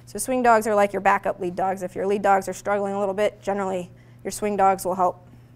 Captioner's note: none